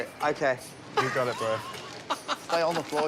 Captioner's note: laughs